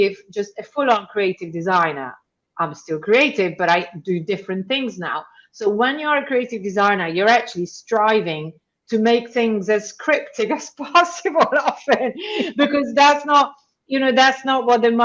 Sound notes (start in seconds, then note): 11.3 chuckles